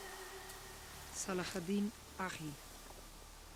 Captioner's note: speaking in arabic